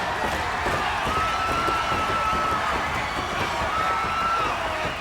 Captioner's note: crowd cheering